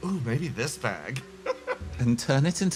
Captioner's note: laugh